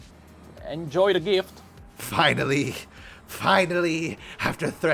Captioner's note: heavy panting